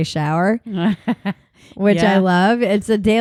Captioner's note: laughs